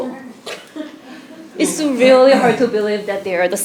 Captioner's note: laugh